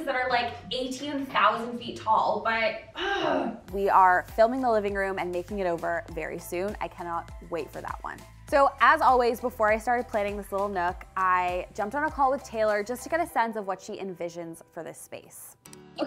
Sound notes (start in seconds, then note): 3.0 growling